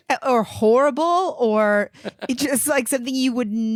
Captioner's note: giggling